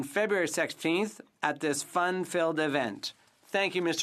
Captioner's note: speaking French